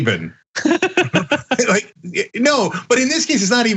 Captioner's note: laugh